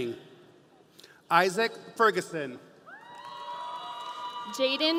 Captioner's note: audience cheering